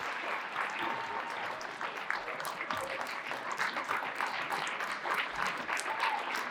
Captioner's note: audience applauding and cheering